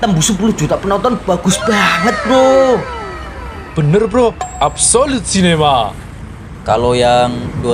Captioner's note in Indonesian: berteriak